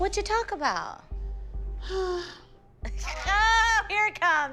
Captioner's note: sighs